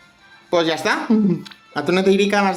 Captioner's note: happy noises